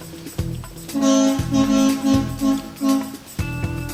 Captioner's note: car honks